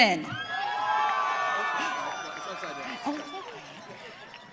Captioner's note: audience cheering